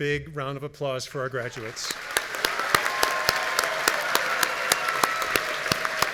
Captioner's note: audience cheering